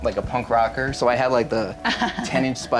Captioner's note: laughs